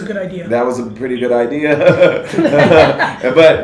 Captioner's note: group laughter